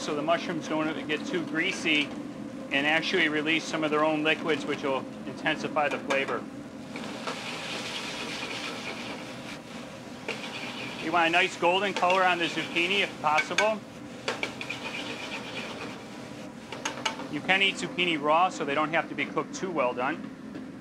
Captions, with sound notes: Helps so the mushrooms don't ever get too greasy and actually release some of their own liquids which will intensify the flavor. (vegetables sizzle) (tongs scrape) You want a nice golden color on the zucchini, if possible. (vegetables sizzle) (tongs scrape) You can eat zucchini raw, so they don't have to be cooked too well done.